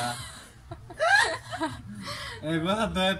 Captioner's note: laughter